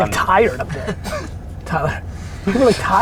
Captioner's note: group laughter